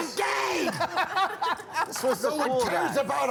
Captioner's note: laughter